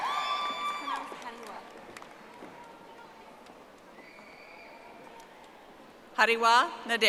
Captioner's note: audience applauding